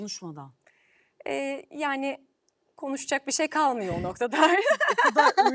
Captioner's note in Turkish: kahkaha